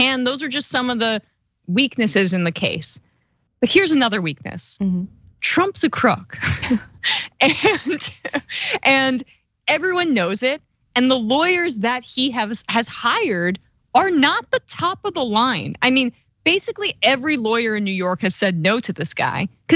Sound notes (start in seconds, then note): 6.4 laugh